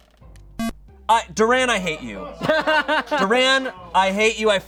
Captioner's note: electronic beep